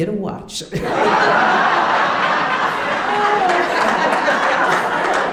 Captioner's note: audience laughing